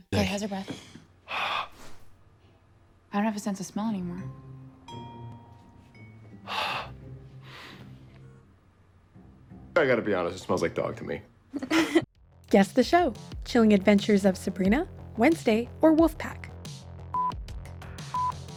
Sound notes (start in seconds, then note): 6.4 Josh breaths across the room to Aidan Waite; 6.5 sniffs; 11.5 Sally laughs